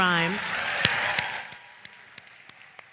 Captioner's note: applause